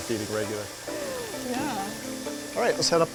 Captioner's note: laughs